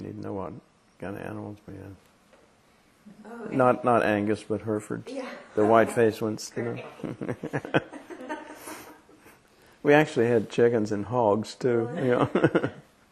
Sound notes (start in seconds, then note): 6.9 laughter